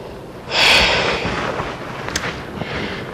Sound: sighs

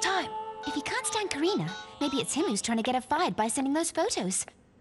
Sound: cellphone bleeping

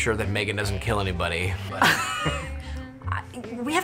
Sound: both chuckle

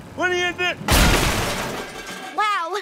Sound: banging

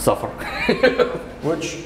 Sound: laughs

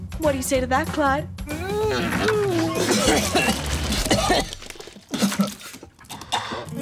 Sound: vomiting

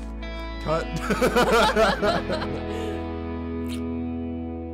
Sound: laughing

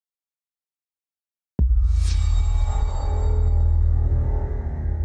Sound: transition sound

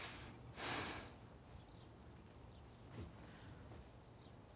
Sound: Tyler sighs

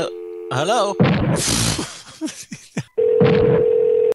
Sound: laugher

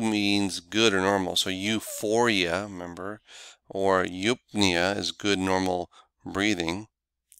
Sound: normal breathing

